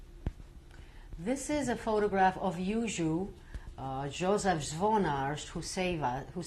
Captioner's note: non-english